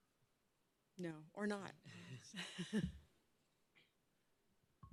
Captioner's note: chuckles